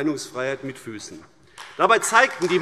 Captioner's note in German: Beifall AfD